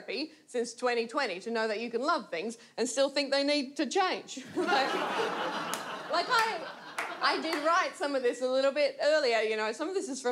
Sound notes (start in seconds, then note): 4.4 audience laughs